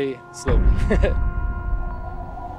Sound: chuckles ruefully

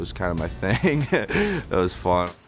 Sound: laughs

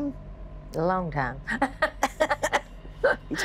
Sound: laughing

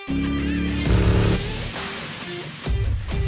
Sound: jetboat sounds

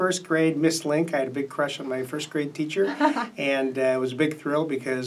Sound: laughs

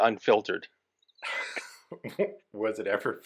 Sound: both laugh

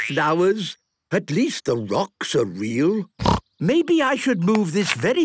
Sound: snorting

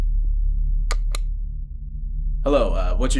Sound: button click

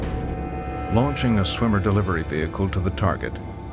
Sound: voiceover

